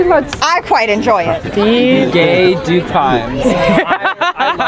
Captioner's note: audience member laughing